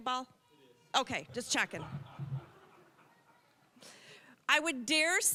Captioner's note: audience laughing